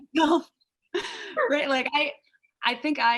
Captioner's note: laughs